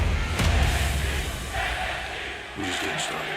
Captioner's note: fans chanting